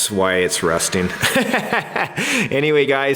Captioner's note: laughing